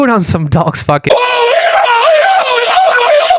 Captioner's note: moans